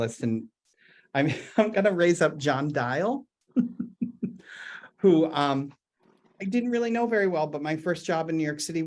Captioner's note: chuckles